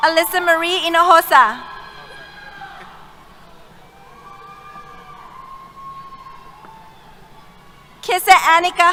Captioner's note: cheers